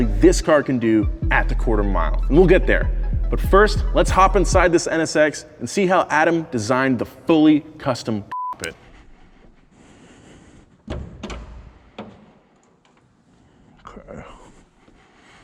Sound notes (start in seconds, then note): 8.3 beep; 10.9 car door opening